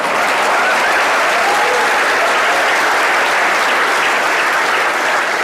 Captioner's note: laughter/Cheers/Applause